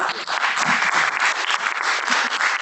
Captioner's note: chuckling; applause